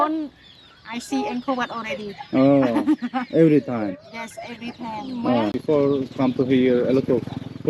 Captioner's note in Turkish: kahkaha